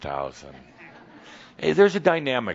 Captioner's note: some chuckles